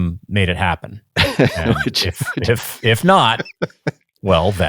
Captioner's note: laughs